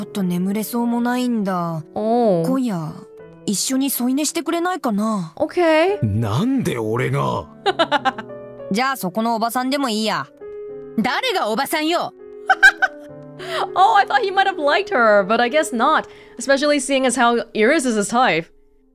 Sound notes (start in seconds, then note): 7.6 chuckles; 12.5 laughs